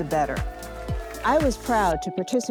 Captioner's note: group cheers